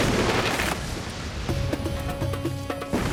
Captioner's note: thunder crashes